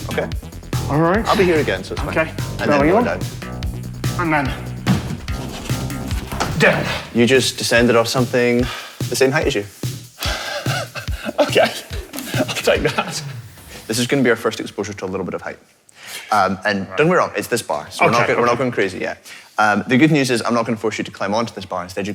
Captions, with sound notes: Okay. ...Alright. I'll be here to catch you. Okay. Belly on. And then... ...down. You just descended off something the same height as you. (wheezes) Okay. I'll take that. (music fades) This is gonna be our first exposure to a little bit of height. And don't worry, it's this bar. We're not going crazy yet. The good news is I'm not going to force you to climb onto this bar.